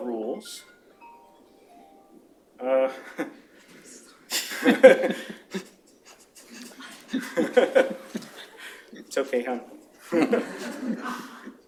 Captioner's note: laughter